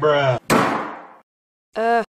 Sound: slam door

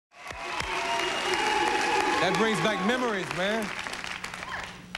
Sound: applause

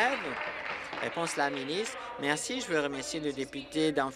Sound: applause

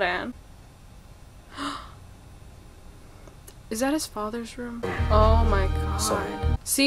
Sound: gasps

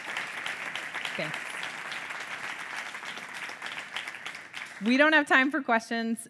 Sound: audience clapping

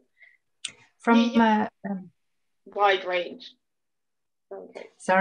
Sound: mumbles

